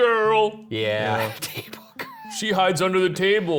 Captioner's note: laughs